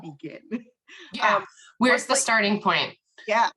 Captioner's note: laughs